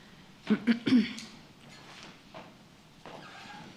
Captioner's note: clears throat